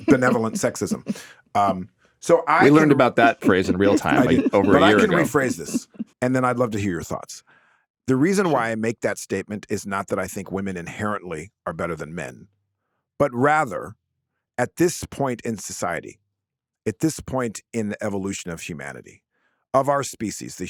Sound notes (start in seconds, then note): 5.1 laughing